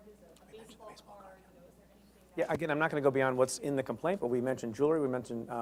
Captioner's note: Preet aside whispers